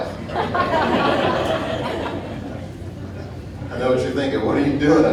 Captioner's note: audience laughing